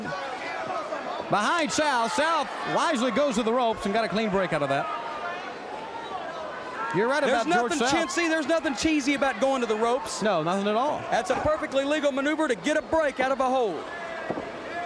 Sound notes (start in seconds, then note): 11.6 crowd chatter